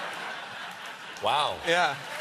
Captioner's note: laughter